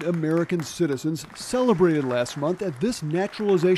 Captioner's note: applause